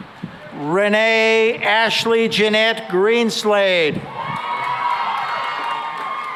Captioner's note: cheering and applause